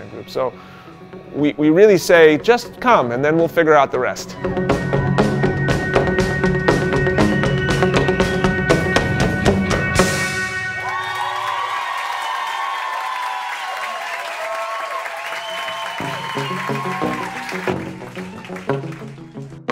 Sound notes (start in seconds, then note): 4.6 upbeat music; 10.9 applause; 17.3 drumming